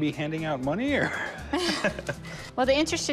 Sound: laughs

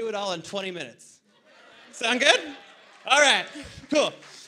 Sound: laughter

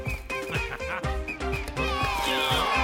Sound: Tobor chuckles evilly; MB grunting

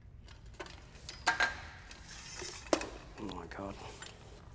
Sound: metal clangs

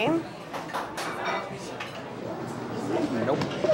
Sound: people chattering

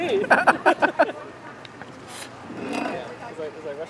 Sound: laughs

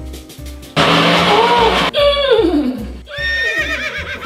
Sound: blender blends; grunts; horse neighs

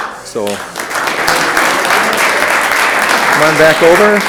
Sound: room applauds

